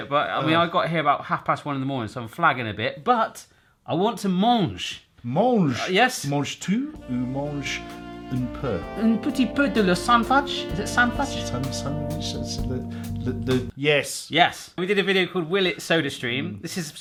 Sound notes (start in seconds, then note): 7.0 speaks in foreign language; 12.1 stutters over words